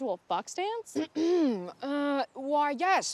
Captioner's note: Kimberly clears throat